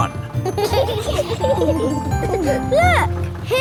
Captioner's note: kids giggling